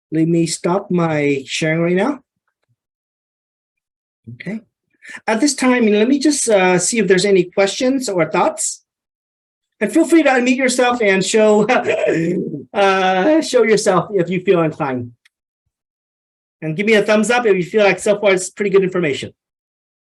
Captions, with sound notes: Let me stop my sharing right now. At this time let me just see if there's any questions or thoughts. And feel free to unmute yourself and show, (chuckles) show yourself if you feel inclined. And gimme a thumbs up if you feel like so far it's pretty good information.